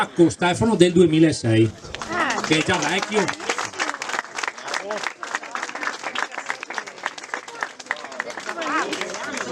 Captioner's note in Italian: Applauso